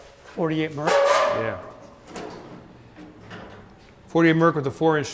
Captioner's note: hood creaking